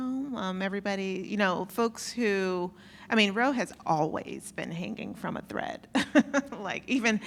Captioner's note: laugh